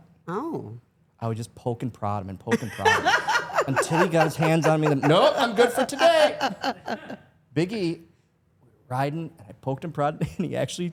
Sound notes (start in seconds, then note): 2.6 Stephanie laughs